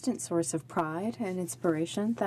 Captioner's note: speaking French